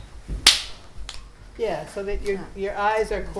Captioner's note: snapping